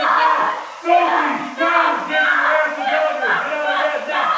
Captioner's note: screaming